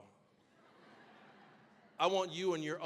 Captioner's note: audience laughing